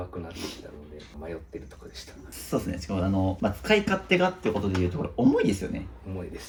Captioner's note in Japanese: 鼻息